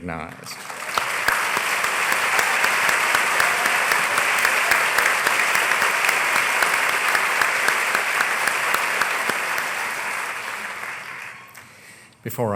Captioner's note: applause